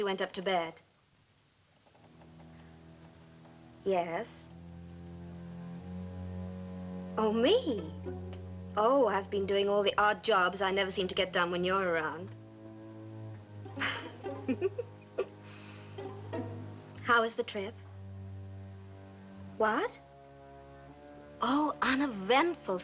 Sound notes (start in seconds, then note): 15.2 laughs